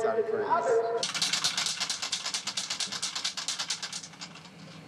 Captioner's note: can rattling